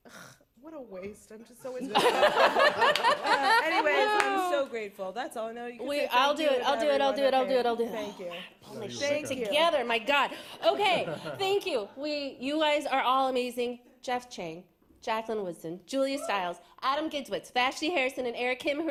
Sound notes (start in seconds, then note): 1.8 laughter; 10.6 laughter